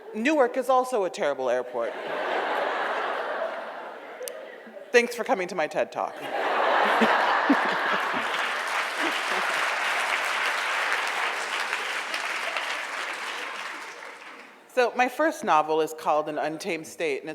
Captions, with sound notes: Newark is also a terrible airport. (audience laughs) Thanks for coming to my TED Talk. (audience laughs) (audience applauds) So my first novel is called An Untamed State,